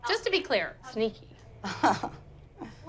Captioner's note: laughs